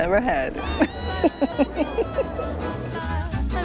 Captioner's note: laughs